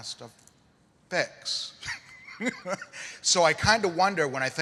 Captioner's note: laughter